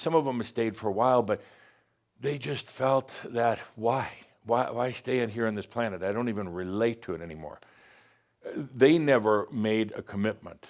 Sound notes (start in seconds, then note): none